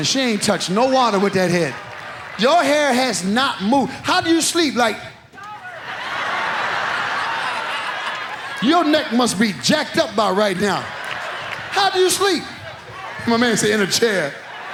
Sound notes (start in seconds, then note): 5.9 audience laughs; 11.1 audience laughs